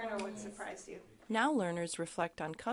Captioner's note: voiceover